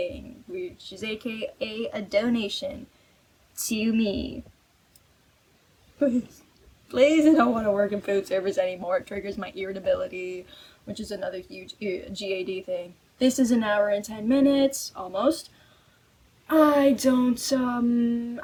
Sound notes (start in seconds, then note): 5.7 strained